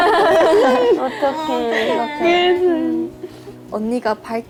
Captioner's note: tears